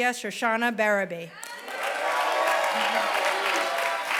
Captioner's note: applause